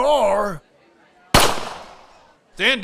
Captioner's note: gun firing